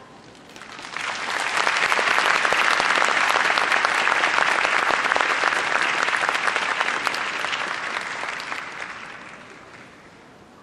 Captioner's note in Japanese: 拍手